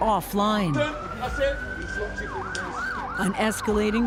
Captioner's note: indistinct chatter